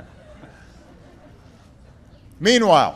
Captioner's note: laughter